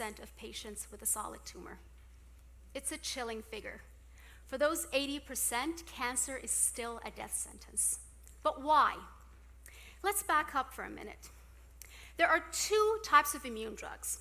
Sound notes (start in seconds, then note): none